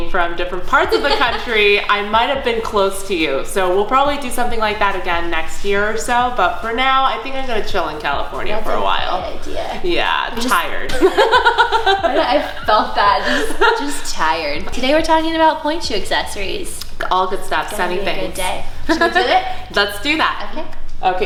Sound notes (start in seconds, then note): 0.8 laughing; 10.9 laughter